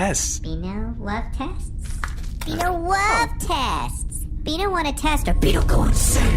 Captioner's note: deep, threatening echo